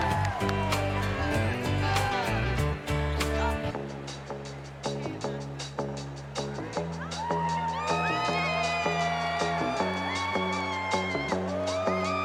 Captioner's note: cheers and applause